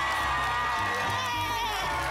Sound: applause and cheering

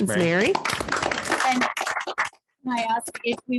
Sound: audience clapping

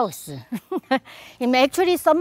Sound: laughs

